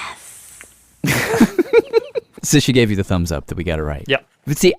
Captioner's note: laughs